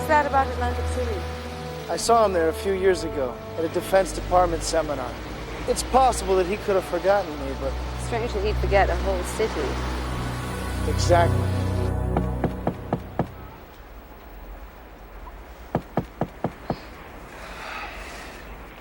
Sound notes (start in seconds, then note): 12.5 knocking on door; 12.5 sighs